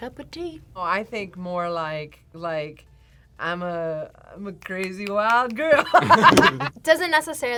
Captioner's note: laughs